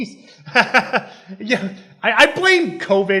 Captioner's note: chuckles